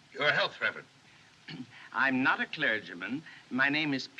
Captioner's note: clears Throat